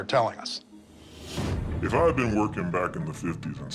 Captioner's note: voice altered